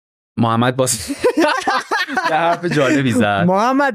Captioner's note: laughs